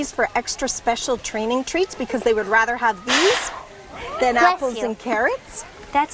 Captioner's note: hippo sneezes